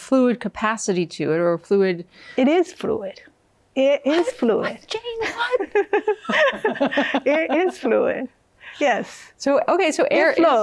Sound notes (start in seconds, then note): 4.6 laughs; 5.2 both laughing